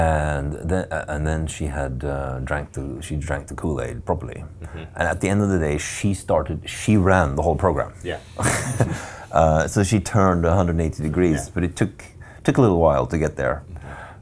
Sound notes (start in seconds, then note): 8.3 laughing